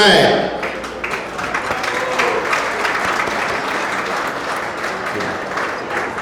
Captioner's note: audience applauding